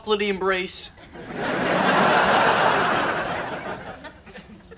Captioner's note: audience laughs